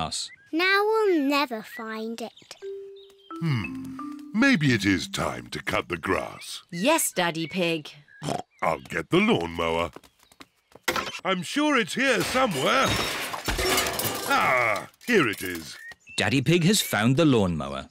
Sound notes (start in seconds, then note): 7.8 snorts; 12.1 objects clattering